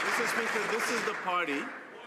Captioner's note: some Applause